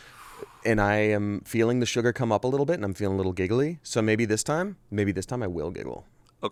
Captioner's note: none